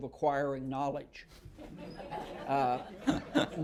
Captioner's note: laughter